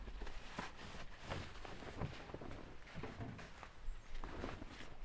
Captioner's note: sounds of cover being pulled off of car